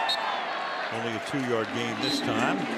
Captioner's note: whistle